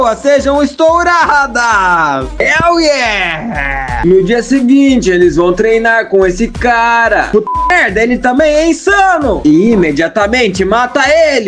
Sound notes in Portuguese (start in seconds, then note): 6.1 resident evil 4 seller laugh